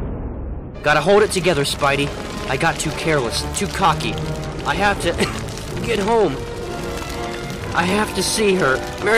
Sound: cough

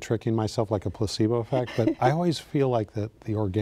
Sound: laughing

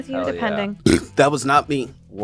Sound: burping

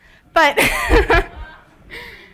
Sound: laughs

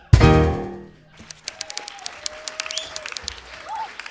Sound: applause

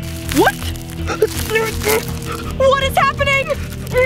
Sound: grunts softly

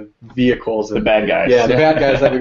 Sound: laugh

